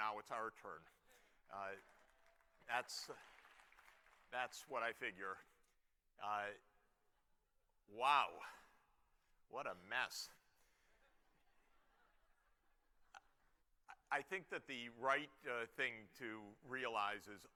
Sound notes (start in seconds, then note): 10.8 laughter